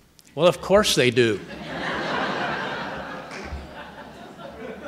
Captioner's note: audience laughing